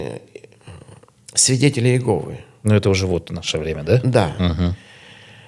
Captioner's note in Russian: фыркает